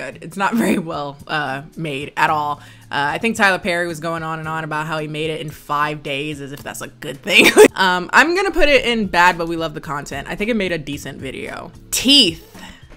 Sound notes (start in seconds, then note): 7.4 laughs